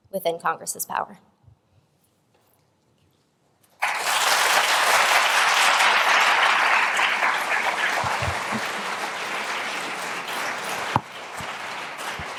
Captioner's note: applause